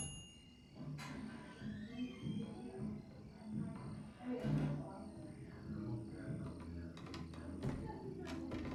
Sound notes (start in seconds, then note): 0.0 typewriter dings; 1.1 crickets chirping; 1.8 people chattering